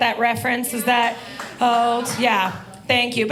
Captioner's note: audience applauding